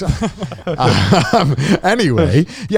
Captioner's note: everybody laughing